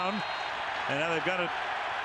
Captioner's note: whistle